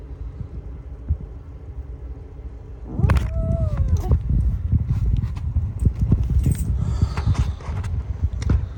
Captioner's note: kicks the camera and growls at the same time